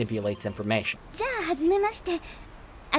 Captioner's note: speaking japanese